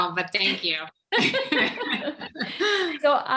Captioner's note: all chuckle